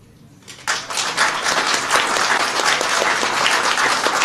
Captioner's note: applause